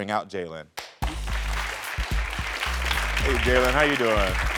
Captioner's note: audience cheering